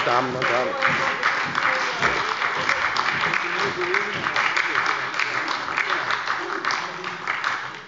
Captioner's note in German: Beifall bei der SPD